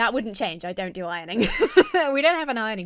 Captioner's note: laughs